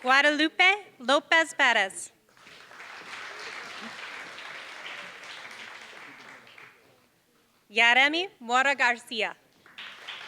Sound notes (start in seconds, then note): 2.3 applause; 9.6 applause